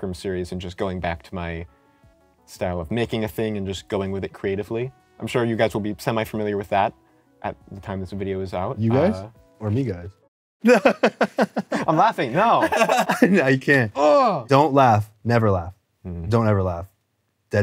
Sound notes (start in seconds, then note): 10.6 laughs